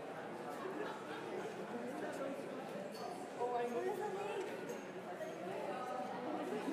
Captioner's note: congregation continues chattering